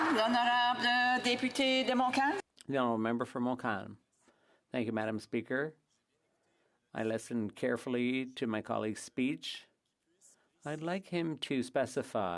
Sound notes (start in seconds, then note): 4.7 speaking French